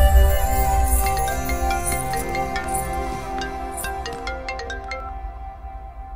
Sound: phone rings

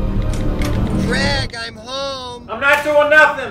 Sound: door opens

